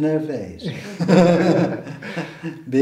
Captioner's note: men chuckle